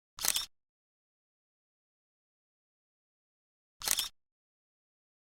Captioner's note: camera shutter clicking